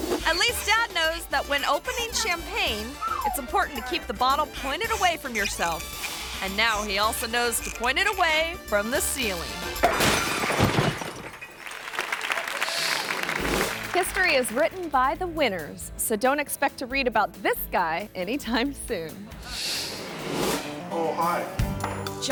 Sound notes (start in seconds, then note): 9.3 cork pops; 9.6 glass shatters; 11.5 audience applauds